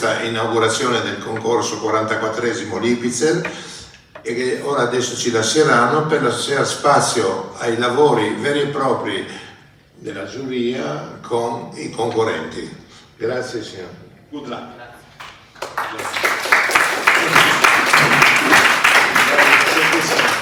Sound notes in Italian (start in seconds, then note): 15.2 Applauso